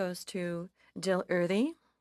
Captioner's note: speaking FRENCH